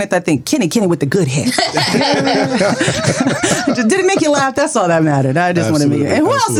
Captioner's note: laughter